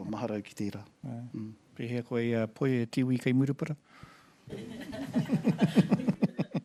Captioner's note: laughter